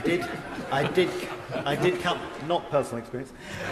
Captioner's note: members laugh